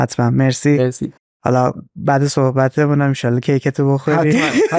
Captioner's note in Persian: خنده